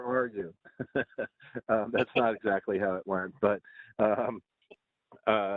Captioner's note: laughter